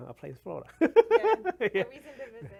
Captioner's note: laughs